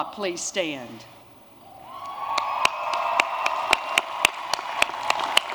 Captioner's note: applause